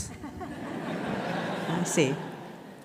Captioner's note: audience laughing